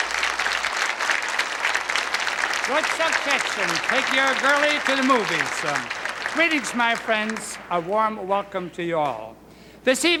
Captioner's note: applause